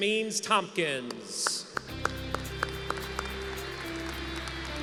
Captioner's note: applause